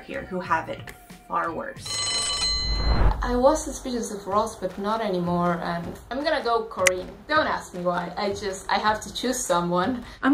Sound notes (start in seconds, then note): 1.8 bell rings